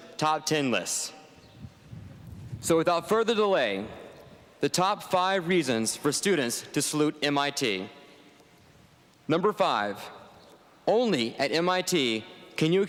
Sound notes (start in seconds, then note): none